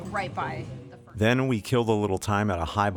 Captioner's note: voiceover